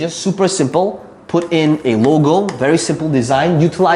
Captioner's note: tapping marker